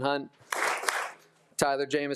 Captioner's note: attendees applauding